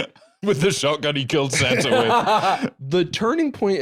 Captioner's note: laughs